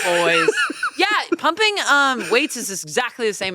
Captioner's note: laughs